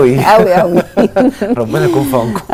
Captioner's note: laughs!